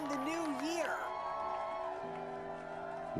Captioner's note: cheers and applause